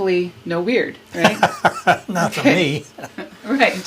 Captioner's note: laughs